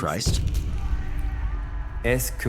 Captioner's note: screams